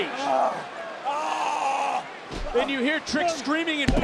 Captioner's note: Trick screaming